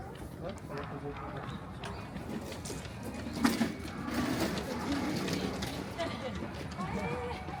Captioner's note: laughs